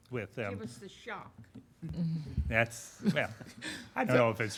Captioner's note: laughing